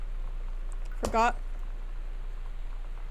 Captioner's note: glass Shatters